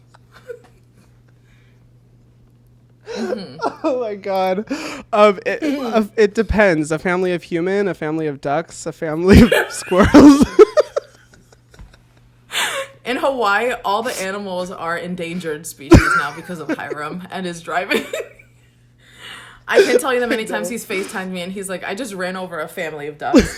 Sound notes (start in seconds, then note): 0.1 both laugh; 9.3 both laugh; 19.7 laughs